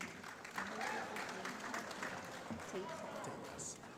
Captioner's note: applause